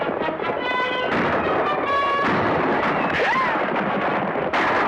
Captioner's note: gunshots